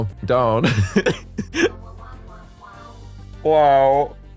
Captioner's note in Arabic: يضحك